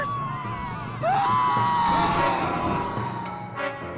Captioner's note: screaming